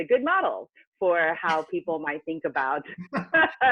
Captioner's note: laugh